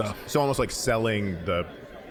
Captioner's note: none